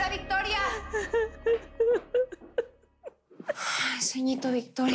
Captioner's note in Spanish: Sollozos